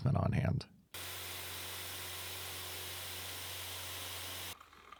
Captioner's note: machine whirring